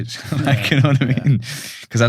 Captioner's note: laughs